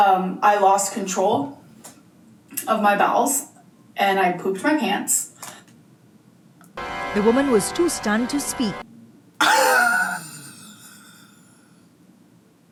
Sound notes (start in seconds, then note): 7.3 meme voice; 9.4 chortles